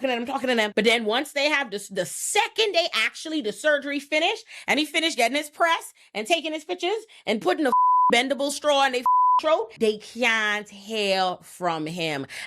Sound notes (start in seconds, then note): 7.7 beep